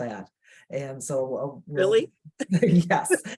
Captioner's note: laughing